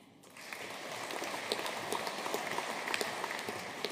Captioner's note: audience applauding